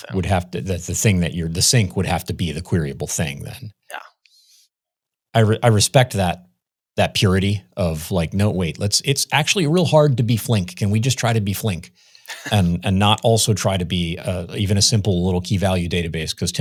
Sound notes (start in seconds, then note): 12.2 laughs